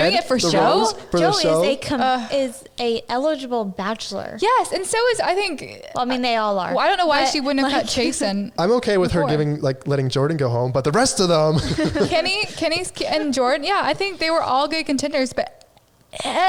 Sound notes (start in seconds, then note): 11.4 laughing